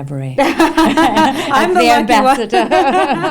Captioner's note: laughs